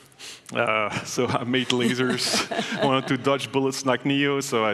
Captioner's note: laughing